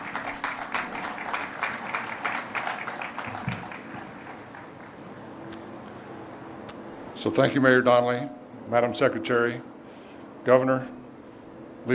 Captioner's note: applause